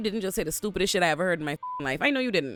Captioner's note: beep